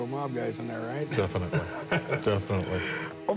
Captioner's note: laughs